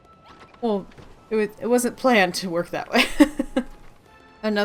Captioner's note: laughs